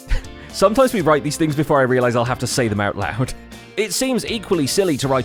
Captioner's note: laughs